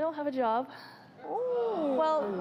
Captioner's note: gasps